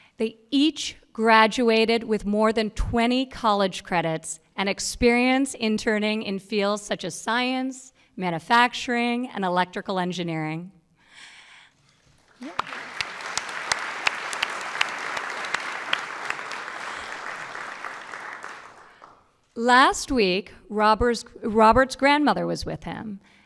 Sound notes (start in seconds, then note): 12.1 applause